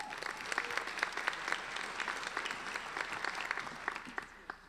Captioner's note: applauding